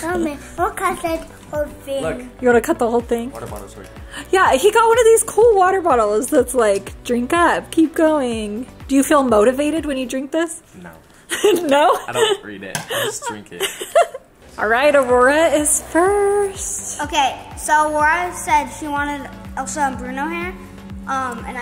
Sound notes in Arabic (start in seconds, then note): 12.7 يضحك